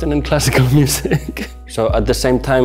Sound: laughing

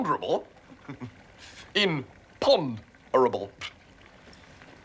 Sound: giggles

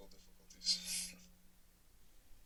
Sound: chuckles

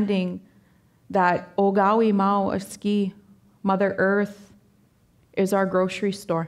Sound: speaking Danezaa

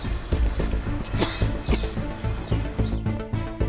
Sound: coughs; eerie music

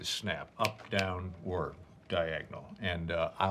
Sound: snaps fingers

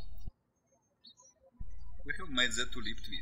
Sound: birds chirping

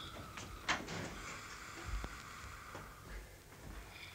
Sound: snoring

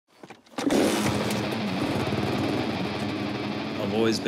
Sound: engine roars; rock music

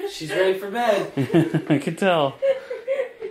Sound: laughs

